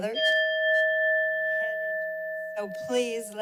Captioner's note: bell sound